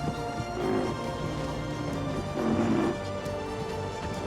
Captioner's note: rhino grunts